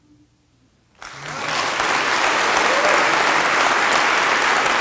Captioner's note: applause